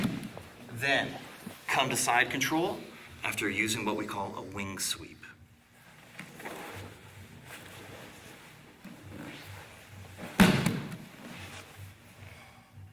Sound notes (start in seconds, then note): 5.4 soft shuffling; 10.4 loud thumping